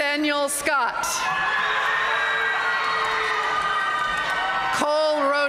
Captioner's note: audience cheering and applauding